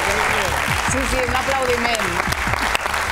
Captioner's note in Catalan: aplaudiment